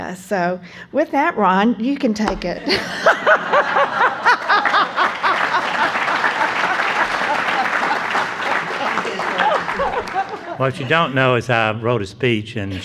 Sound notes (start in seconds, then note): 2.6 laughing; 4.0 applause